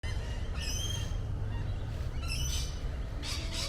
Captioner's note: birds cawing